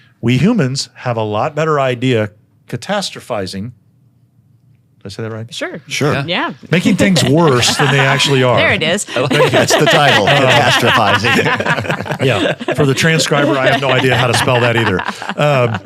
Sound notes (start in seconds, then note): 11.1 panel laughing